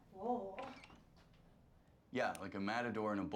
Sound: door creaking

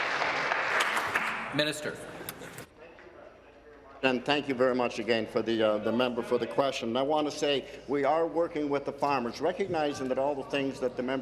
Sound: some Applause

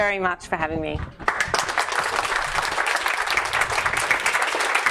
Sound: audience clapping

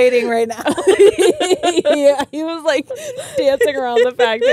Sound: both laughing

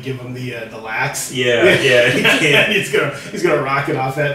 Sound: laughing

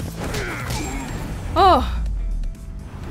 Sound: sighs in relief

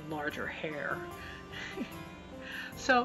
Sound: chuckle

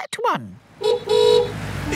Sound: horn honking

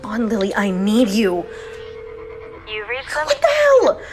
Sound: line trilling

